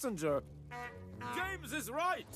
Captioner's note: horn Honks